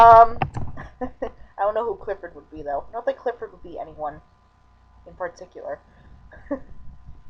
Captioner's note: chuckling